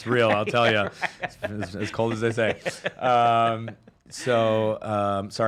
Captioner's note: laughs